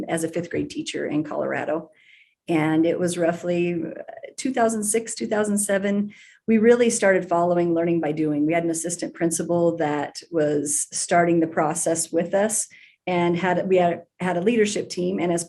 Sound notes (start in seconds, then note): none